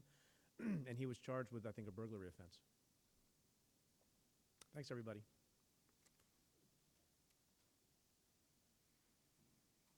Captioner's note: clears throat